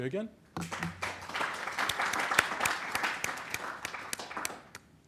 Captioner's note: applause